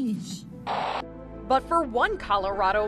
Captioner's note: static crackling